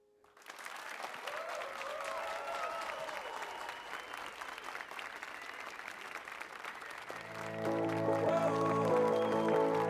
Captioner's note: applause and cheers